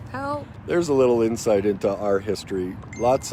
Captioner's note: phone dings